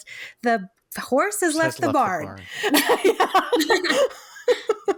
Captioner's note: laughs